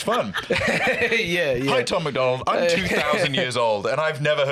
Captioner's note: laughs